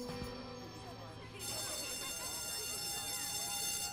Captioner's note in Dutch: schoolbel rinkelt